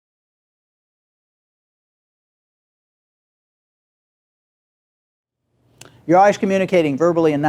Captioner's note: silence